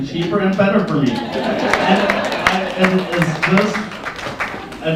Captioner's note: laughter and Applause